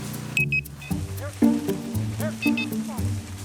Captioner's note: collar beeping